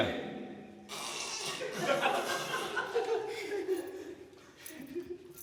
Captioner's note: laughter